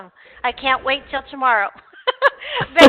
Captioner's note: laughing